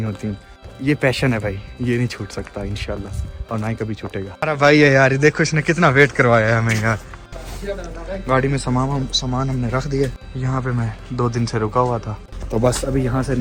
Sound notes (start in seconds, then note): 4.8 laughed